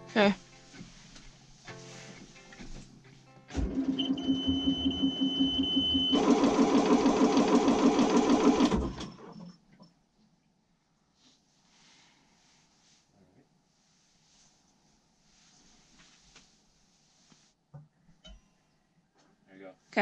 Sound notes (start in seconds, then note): 3.9 boat beeps; 6.3 engine cranks